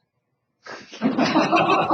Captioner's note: laughter